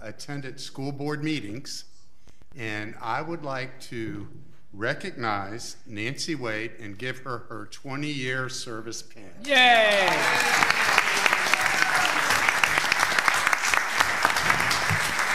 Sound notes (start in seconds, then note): 9.5 audience clapping